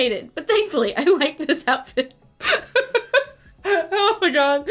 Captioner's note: laughs